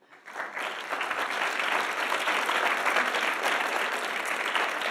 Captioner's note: audience applauding